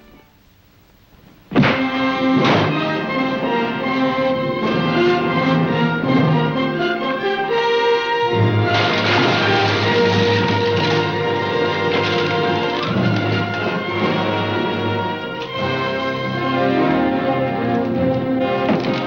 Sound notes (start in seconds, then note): 1.7 suspenseful music; 8.4 glass shattering